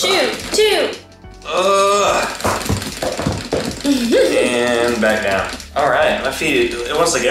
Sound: grunting and laughing

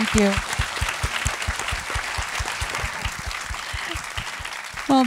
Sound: audience applauding

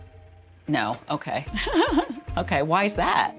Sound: laughs

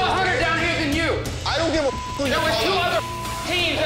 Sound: beep

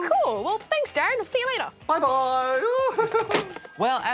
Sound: laughs

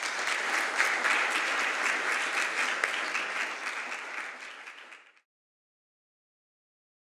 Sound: applause

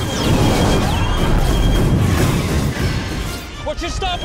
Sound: shooting

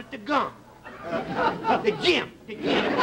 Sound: audience laughter

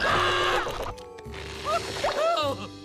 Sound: screams; shouting

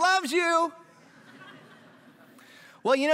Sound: laughter

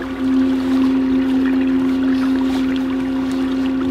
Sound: sonar humming

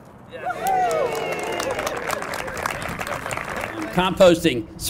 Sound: applause

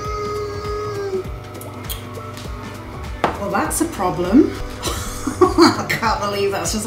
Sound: disbelief laugh

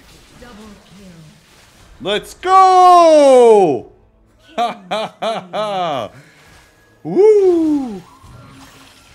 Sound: laugh

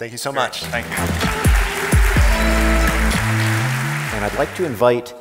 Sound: audience applauding; twitchy music

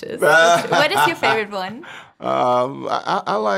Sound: laughing

